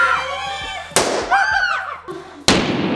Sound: anticipation music; screaming; pop; screaming; slow motion pop

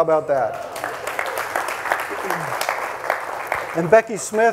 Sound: audience applauding; audience cheering

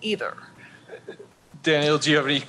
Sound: chuckling

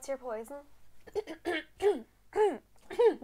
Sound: clearing her throat

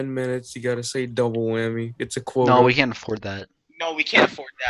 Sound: chuckles

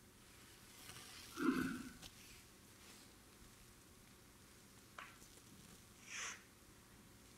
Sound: audience member clearing their throat

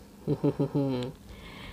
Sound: laughing & Smiling

